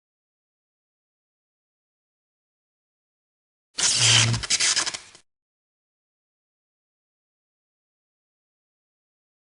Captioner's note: sparking sound